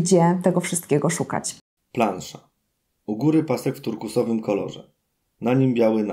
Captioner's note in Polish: Głos męski z offu, audiodeskrypcja planszy